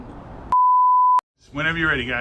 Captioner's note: production tone beeps